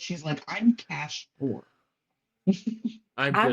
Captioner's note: laughs